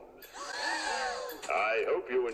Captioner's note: kids gasp